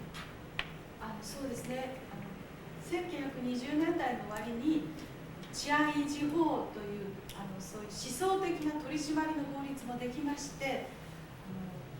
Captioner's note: speaking Japanes